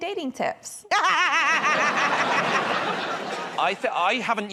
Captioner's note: laughter